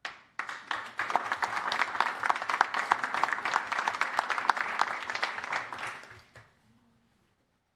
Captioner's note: applause